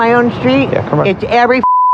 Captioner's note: beep